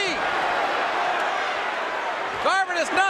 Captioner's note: audience cheering